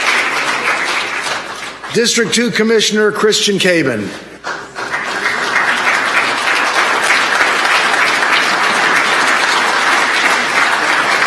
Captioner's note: applause